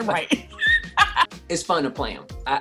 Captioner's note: laughs